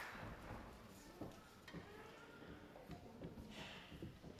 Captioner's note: baby crying